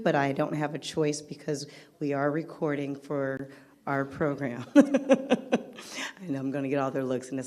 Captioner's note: laughs